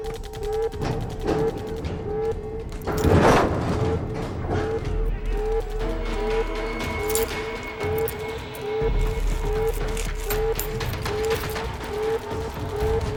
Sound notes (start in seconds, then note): 0.8 banging